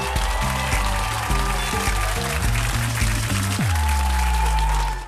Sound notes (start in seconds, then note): 2.3 audience applauding